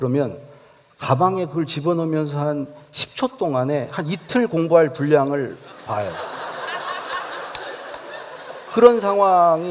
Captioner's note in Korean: 웃음